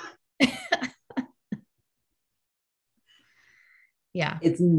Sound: pair laughing

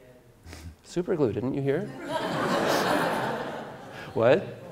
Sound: audience Laughter

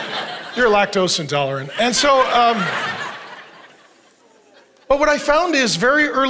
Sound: congregation laughing

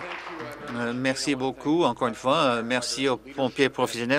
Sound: applause

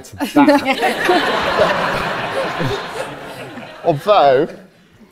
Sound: audience laughs

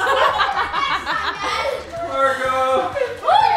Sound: laughing

